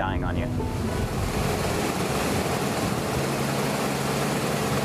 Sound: water crashing

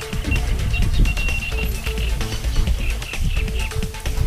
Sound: rod beeping

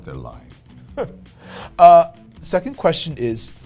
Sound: laughs

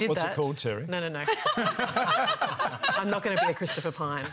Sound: laughter

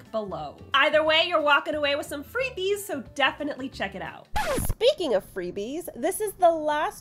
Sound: disk scratch noise

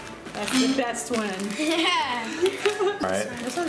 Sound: laughs

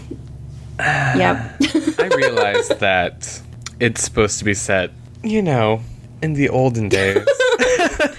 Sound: laughter

